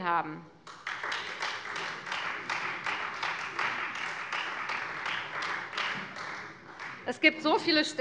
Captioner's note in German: Beifall Freie Demokraten